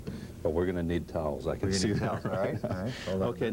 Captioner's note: chuckling